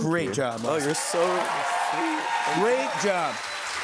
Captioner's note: cheers and applause